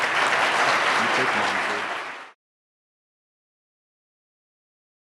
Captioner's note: audience applause